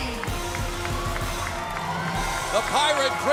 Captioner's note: cheers and applause